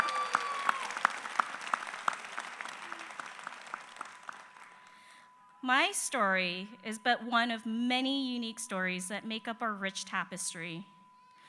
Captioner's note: applause